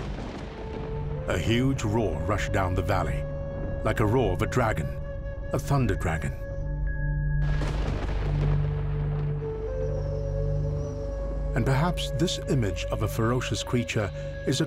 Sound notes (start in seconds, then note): 7.4 rocks rumbling